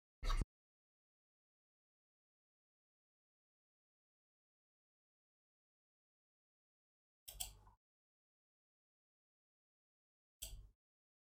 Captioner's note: silence